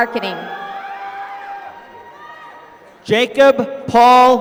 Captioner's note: applause